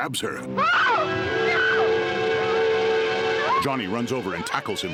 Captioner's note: Barbra screams